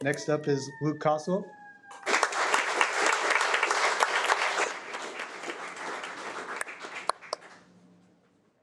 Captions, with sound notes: Next up is Luke Costlow. (audience applauding)